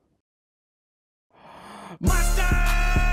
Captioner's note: inhale